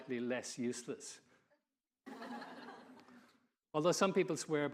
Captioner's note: audience laughing